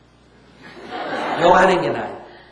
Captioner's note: audience Laughter